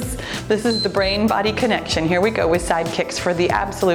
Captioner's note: timer beeps